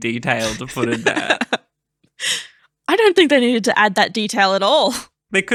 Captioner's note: laughing